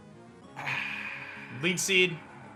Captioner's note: sighs